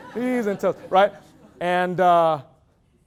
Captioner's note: loud laughter